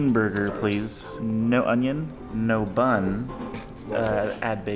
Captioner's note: snorts